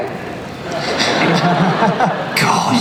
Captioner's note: laughter